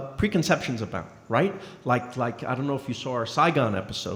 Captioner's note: none